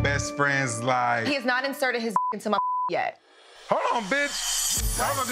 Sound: beep

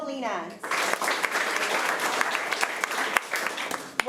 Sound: applause

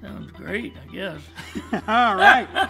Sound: laughter

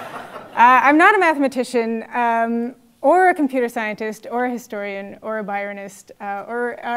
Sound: laugh

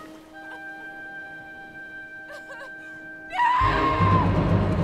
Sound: weeping

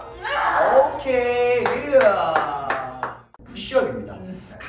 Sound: clap clap

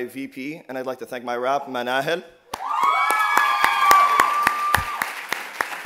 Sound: applause and cheers

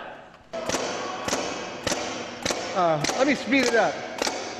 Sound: Leonardo banging

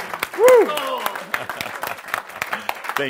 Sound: audience applause

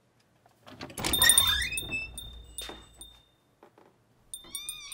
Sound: bell rings; door creaks

